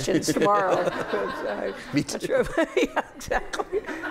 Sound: laughter

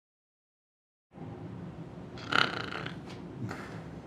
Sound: snoring

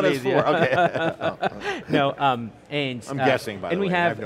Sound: both laugh

